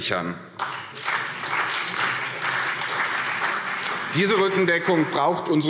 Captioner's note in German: Beifall